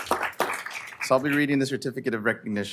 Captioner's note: applause